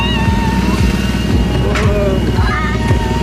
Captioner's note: ride engine rumbling; screaming